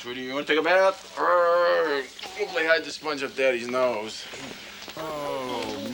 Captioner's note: growls